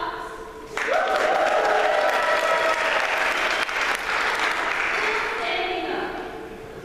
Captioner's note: applause